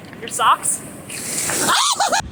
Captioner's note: terrified screaming